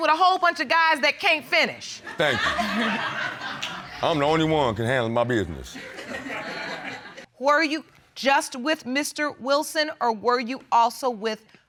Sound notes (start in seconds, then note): 2.2 butler chuckles; 5.8 audience laughs